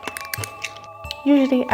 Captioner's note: extremely crunchy sounds